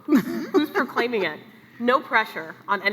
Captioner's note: laughs